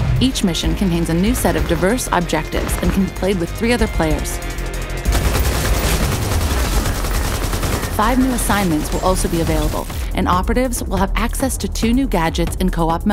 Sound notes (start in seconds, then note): 5.0 gun firing